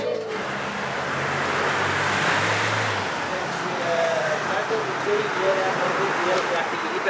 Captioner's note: Traffic